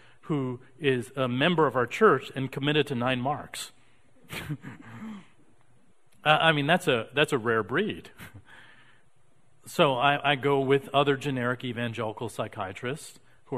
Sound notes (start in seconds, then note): 4.3 chuckling